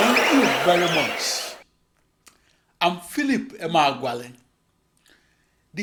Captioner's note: wild applause and cheering for 22 seconds